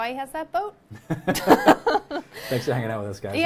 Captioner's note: both laughing